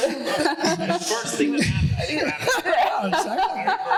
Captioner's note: speaking off mic; laughing